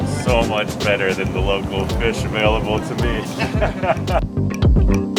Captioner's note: laughter; music picks up